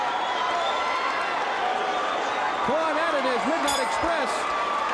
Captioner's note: crowd cheering